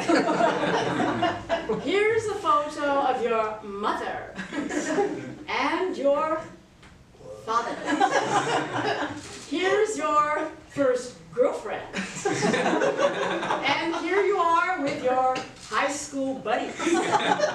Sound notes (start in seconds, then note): 7.8 laughter; 16.7 laughter